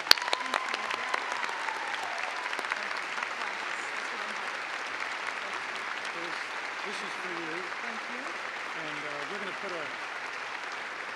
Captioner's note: clapping